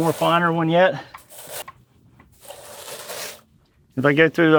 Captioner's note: flaxseed rustles